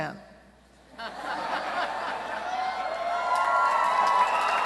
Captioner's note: cheering